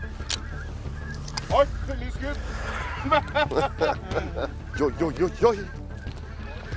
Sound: giggles

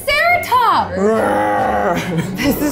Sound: roars

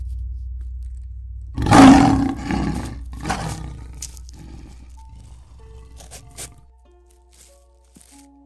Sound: ferocious growling

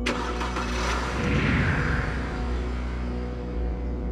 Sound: car starts

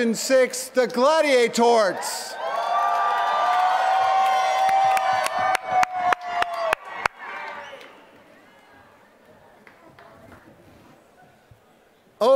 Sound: applause

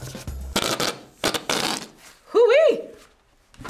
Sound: whoopie cushion farting

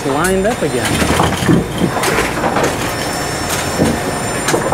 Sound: pins clattering

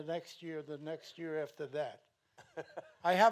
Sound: chuckles

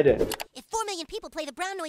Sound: computer mouse clicking

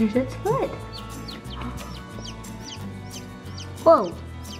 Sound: chirps

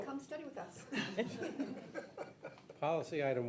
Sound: audience laughs

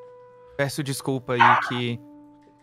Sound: Gabi’s dog barking

